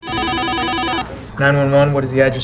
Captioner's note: phone rings